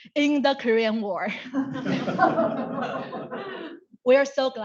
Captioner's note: audience laugh